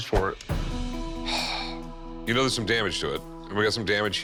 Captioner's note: sighs